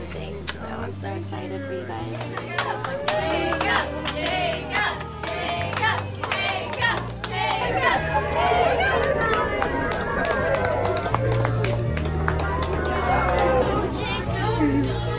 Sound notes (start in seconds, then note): 2.4 crowd chanting; 2.4 crowd chattering; 8.4 crowd cheering; 10.4 crowd applauds